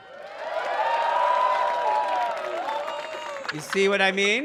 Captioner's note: audience cheering